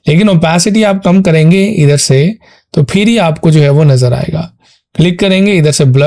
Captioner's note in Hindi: नाक से की जाने वाली आवाज़